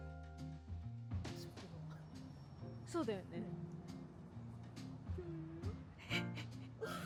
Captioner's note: laughs